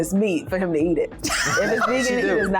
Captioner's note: laughs